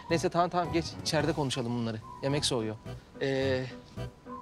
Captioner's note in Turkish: none